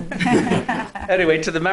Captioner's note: laughing